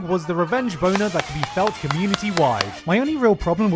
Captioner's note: more clapping